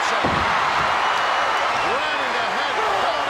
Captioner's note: audience cheering